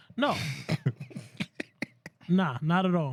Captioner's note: speaking Spanish; laughter